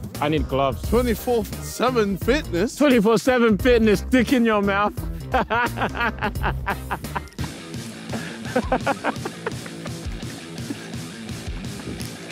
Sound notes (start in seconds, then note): 5.2 laughing; 8.1 rock music